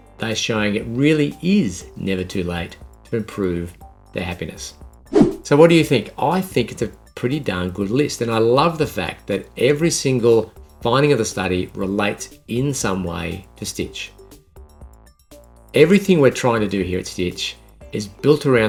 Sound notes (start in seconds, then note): 5.1 scene change whooshing; 14.0 upbeat music